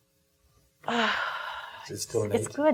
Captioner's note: exhaling